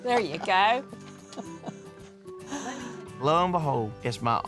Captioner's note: grandma laughs